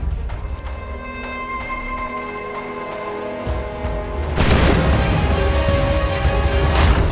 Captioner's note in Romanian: Aplauze